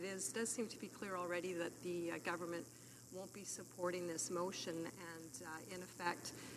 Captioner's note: speaking French